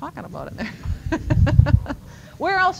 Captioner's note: chuckling